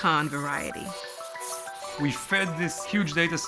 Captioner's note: bats squeaking